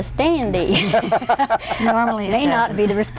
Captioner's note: everyone laughs